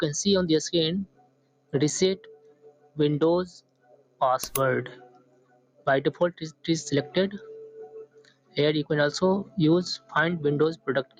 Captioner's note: click